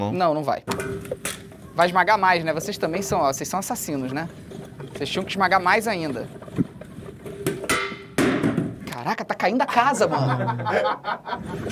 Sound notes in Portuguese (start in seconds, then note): 7.2 som de coisas caindo; 9.7 risadas